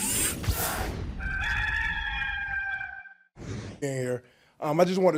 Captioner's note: rooster crowing